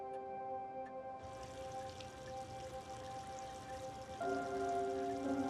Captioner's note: water splashing softly